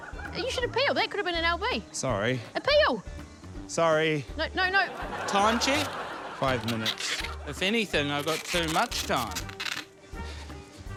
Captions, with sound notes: You should appeal. That could have been an LB. - Sorry. - Appeal. - Sorry. - No, no, no― - Time check? - Five minutes. (TAPE SQUEAKS) If anything, I've got too much time.